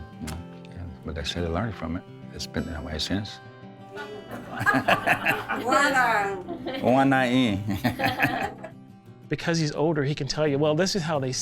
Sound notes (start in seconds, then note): 3.5 class talking in lessons; 6.6 speaks in Cherokee; 8.0 laughing